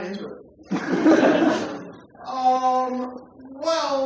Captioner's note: laughter